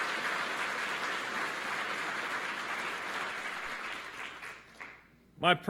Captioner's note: applause